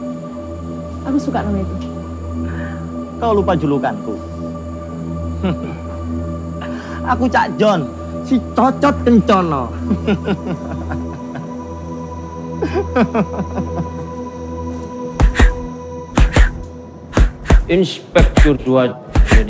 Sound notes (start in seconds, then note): 5.4 CAK JON chuckles; 9.2 CAK JON laughs; 14.2 punching sounds